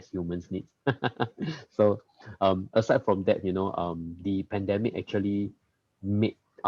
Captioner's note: laughs